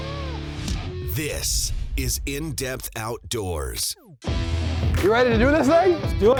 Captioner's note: voiceover